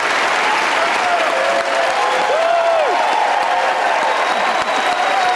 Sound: audience cheering

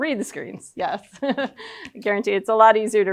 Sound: laughs

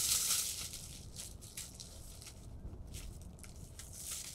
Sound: paper ripping

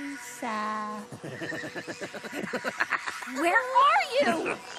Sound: evil laughter

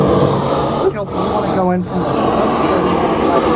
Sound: indistinct chatter

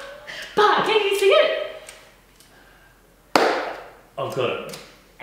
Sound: claps

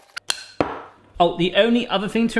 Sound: spatula rubbing; bowl thudding

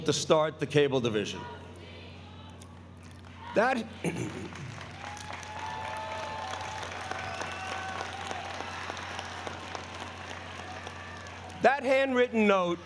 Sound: applause

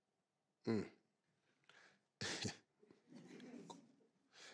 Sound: Steve grunts

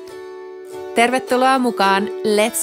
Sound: speaking Finnish

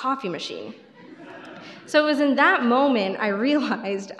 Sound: crowd laughter

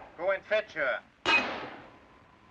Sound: bullet pierces window

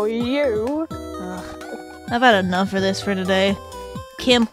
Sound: sigh

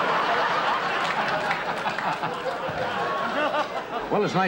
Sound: audience laughter

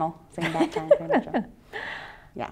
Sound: laughs

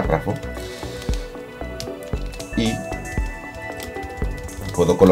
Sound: typing

